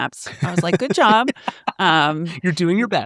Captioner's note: laughs